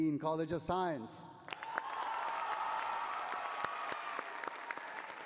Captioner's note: cheering